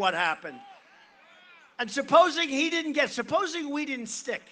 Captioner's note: none